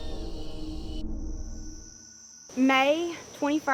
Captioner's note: insects buzz